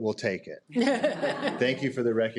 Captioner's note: participants laughs